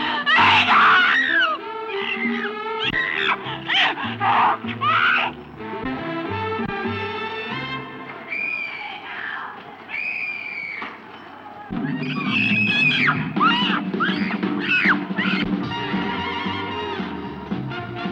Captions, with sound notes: Let me go. (uptempo jazz music continues) Let me go (screams).